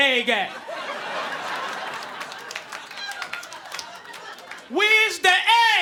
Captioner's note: audience laughing